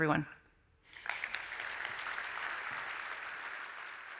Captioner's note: applause